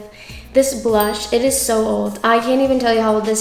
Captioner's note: bell chimes